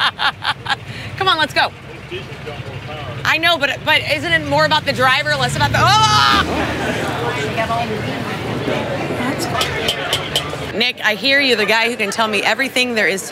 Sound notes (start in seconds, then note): 0.0 laughs; 5.7 screaming and racing; 6.9 people talking in the festival; 9.8 honking the horn